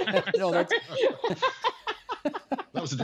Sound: laughter

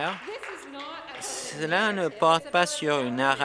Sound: applause

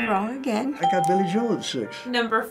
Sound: ding

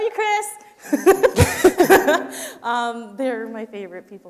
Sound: laughs

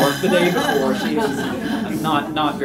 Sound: laughter

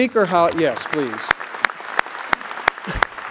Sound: applause

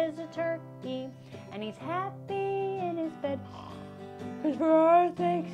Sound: closes eyes & snores; yawning

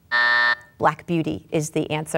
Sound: buzzer going off

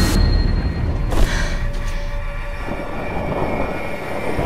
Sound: gasping; suspenseful dramatic music

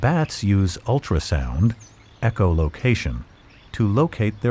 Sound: echolocation

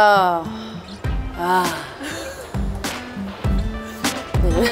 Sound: laughing; laughter

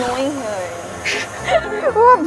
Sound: laughs

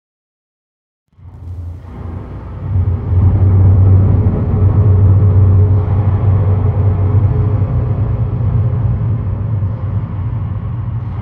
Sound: sound of temple cave

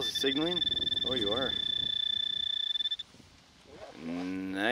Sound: pointer pings

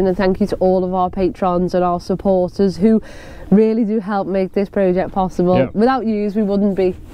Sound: none

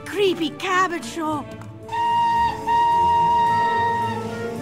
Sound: train whistles

